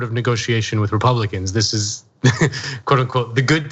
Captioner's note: laugh